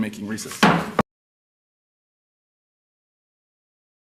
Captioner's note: chair hitting gavel